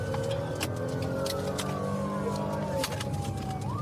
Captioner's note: siren blaring